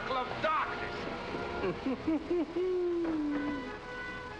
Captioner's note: giggles sinisterly